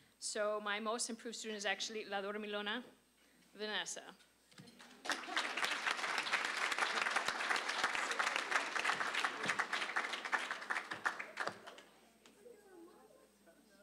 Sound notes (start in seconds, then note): 4.8 applause